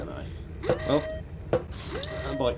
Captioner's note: alarm sounds